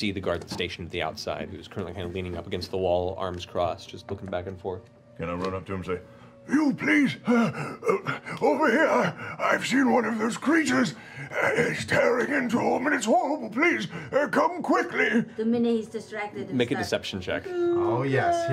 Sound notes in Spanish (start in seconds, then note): 6.7 voz vieja y ronca